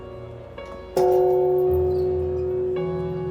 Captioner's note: gong clanging more clearly